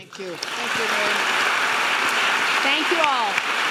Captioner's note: applauding